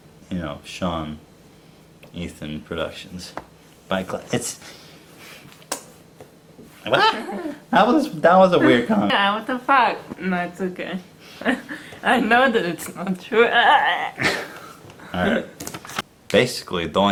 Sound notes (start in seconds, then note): 11.4 laughs; 13.4 laughs